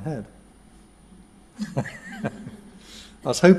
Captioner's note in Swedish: skratt